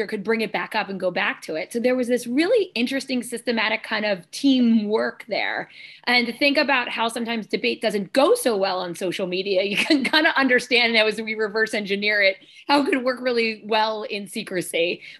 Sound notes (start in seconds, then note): 9.9 laughter